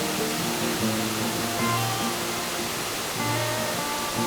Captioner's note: roaring waterfall